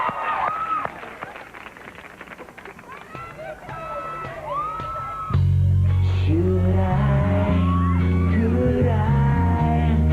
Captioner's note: applause